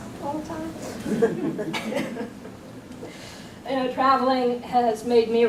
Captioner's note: audience chuckles